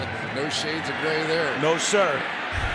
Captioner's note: cheering